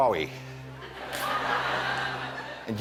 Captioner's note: laughter